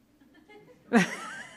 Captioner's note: laughs